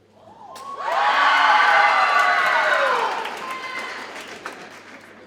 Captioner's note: audience cheers and applauds